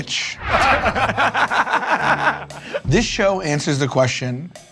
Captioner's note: laughter